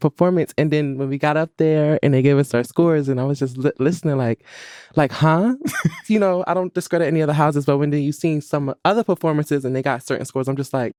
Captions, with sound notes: And then, when we got up there and they gave us our scores, and I was just listening like-- like, "Huh?" (LAUGHS) You know? I don't discredit any other houses, but when you seen some other performances and they got certain scores, I'm just like,